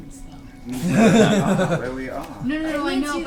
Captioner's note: all laugh